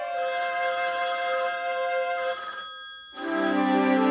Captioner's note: telephone Ringing